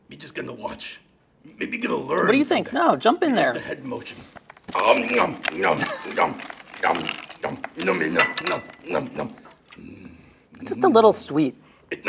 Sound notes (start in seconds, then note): 4.1 cookie crunching